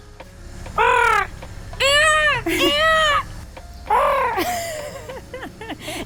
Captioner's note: squawking like a peacock